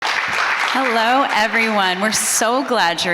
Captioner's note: audience applauding